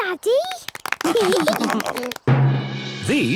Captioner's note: clapping, laughing